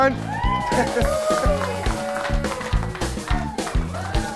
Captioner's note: crowd cheers